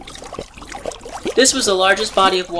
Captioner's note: sound of gurgling and frothing water